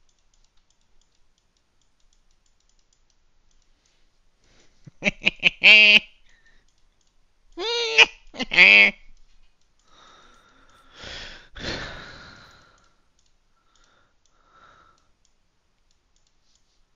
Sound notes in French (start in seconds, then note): 4.9 Rire Diabolique; 8.3 Rire Diabolique